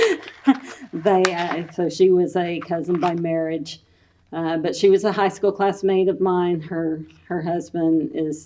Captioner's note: laughs